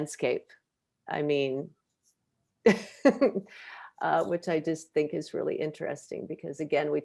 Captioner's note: chuckles